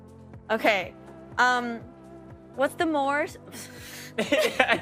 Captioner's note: laughing